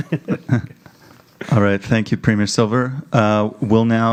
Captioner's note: laughing